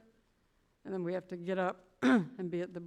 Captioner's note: clears throat